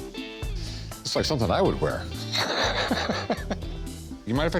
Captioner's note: laughs